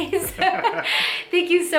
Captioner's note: both laughing